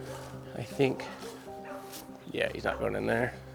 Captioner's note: dogs barking faintly